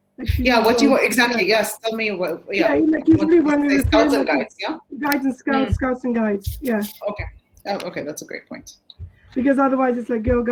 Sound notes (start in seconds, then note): 2.6 chatter